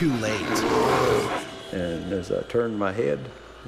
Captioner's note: bear growling